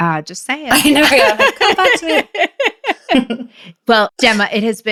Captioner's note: both laughs